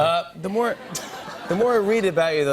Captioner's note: laughter